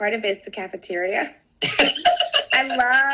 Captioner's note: laughter